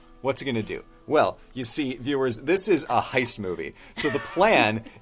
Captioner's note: laughs